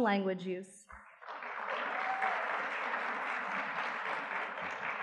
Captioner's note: audience clapping